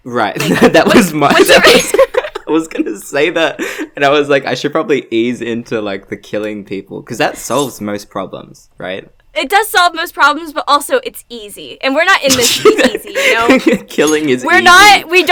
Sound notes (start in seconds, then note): 1.2 laughs